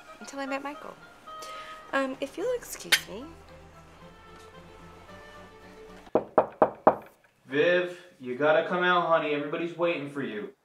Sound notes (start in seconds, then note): 6.1 knocking at door